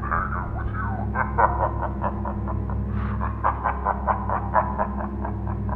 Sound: maniacal laughing

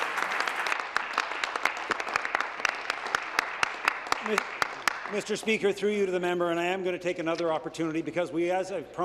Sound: applause

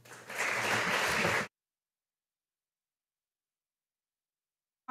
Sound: audience applauding

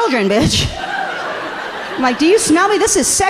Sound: audience laughing amusingly

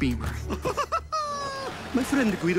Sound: laughing

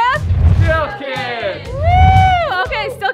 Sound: group Speaking

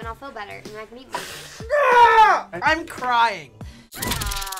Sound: screams; person screams

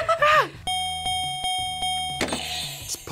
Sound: buzzer rings; bell rings

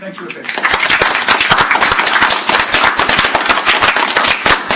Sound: audience applauding

